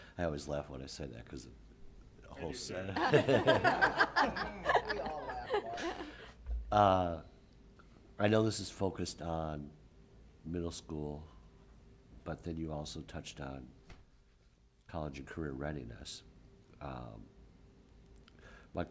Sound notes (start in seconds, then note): 2.9 laughter